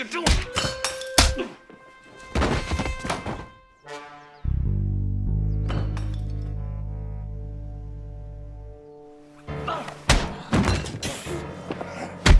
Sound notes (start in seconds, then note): 0.1 smacking; 3.8 dramatic music; 5.7 clattering; 9.6 smacking; 12.2 thudding